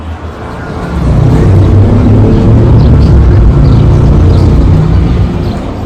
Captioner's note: motorbike Revving